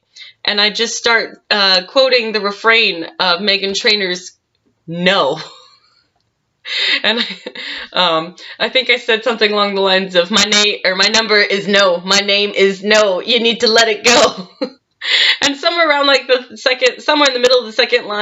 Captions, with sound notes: And I just start, uh, quoting the refrain of Meghan Trainor's "No" *laughs* And I, um... I think I said something along the lines of "My na--My number is NO; My name is NO" "You need to let it go!" And somewhere around the middle of the 2nd line,